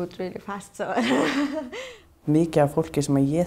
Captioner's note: laughs